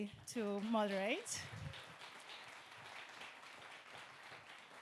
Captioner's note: audience clapping